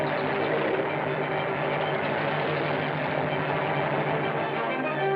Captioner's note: airplane rumbling